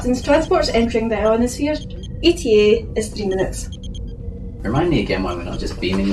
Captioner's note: alarm